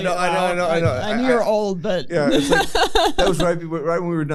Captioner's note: laughter